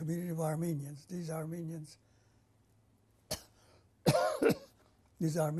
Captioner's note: pauses for 3 seconds